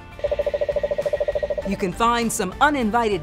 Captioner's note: frog croaking